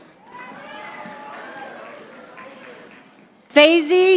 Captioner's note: audience applauding